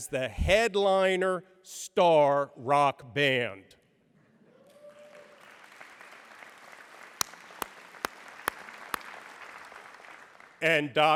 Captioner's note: applause